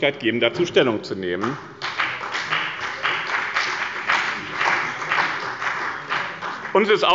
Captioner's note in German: Beifall bei dem BÜNDNIS 90/DIE GRÜNEN und der CDU